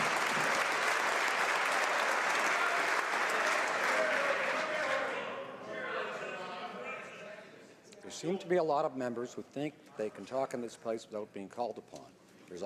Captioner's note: some Applause